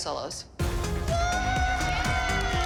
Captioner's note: cheering and applause